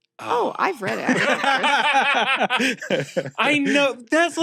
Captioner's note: laughs